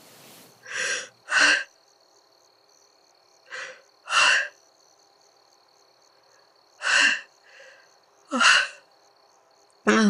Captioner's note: deep breathing